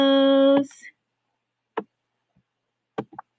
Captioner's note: tapping